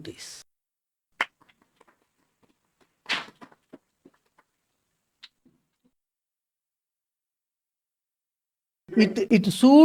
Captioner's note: claps